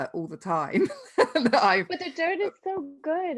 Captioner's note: chuckles